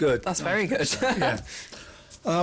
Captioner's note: chuckles